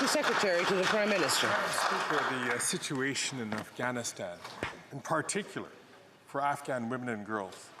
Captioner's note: some Applause